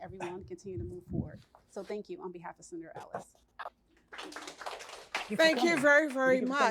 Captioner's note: applause